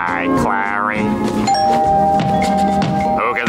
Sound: doorbell ringing

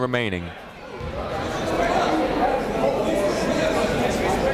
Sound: chatter

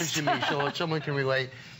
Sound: laughter

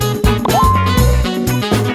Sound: computer pings

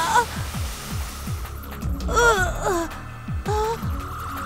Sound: shrieks

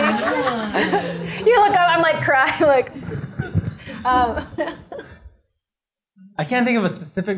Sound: laughter

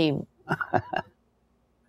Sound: chuckles

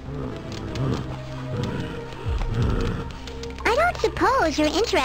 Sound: heavy breathing

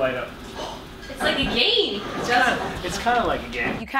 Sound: gasps

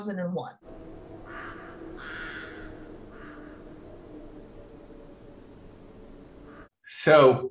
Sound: wind blowing and the sounds of crows

